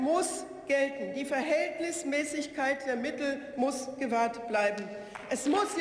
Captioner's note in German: Beifall